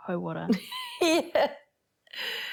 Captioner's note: wheezing